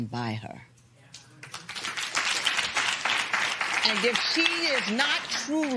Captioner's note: applause